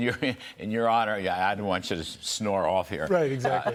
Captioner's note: laughter; laughter